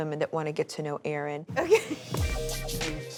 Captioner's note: laughing